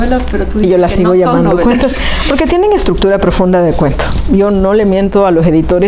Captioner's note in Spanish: Se ríen